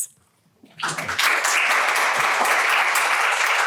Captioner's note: applause